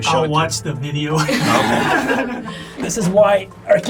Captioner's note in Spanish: risas